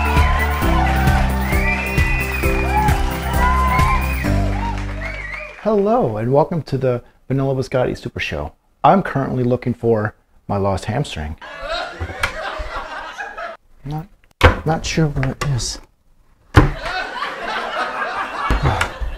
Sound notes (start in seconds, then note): 11.4 laughter; 16.7 laughter